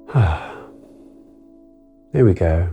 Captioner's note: exhales